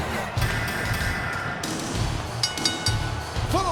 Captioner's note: name whooshes; bell clings